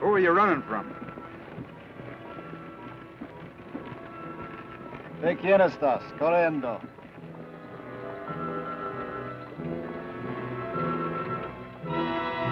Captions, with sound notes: Who were you runnin' from? (Ben speaks foreign language)